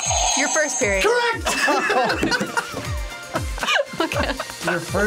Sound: buzzer rings; laughs

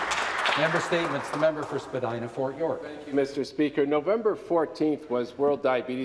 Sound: applause

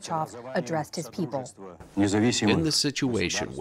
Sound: through translator

